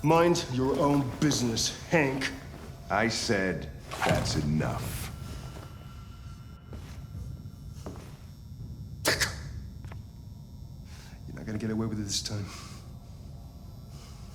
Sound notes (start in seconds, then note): 9.9 exclaims